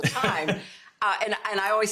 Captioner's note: laughter